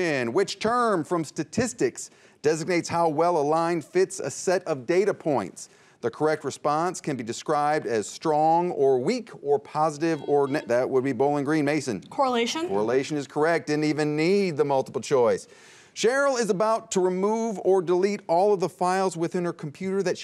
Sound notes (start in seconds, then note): 10.2 buzzer beeps